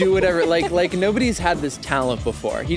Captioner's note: laughs